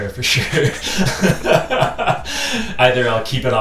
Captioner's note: laughing